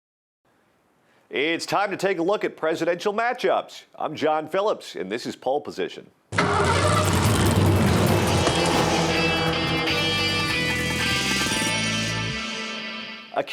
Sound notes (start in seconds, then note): 6.3 engine starting; 8.4 dramatic music; 8.4 engines revving